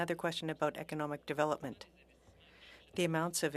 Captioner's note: speaking French